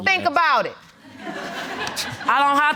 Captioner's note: laughter